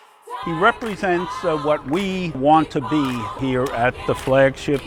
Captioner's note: voiceover